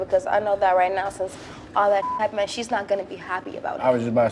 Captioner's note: beep